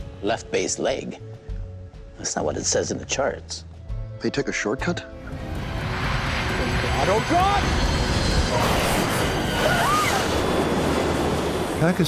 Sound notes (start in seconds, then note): 5.2 whooshing; 7.9 plane crashing; 8.4 passengers screaming